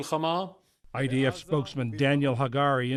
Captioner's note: voice-over